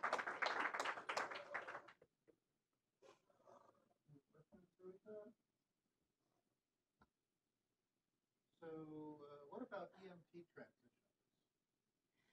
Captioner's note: applause